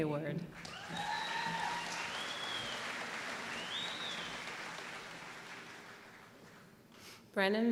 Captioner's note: applause